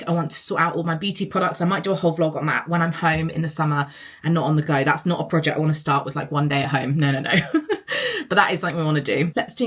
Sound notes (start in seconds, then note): 7.9 laughs